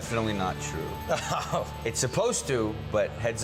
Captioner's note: laughs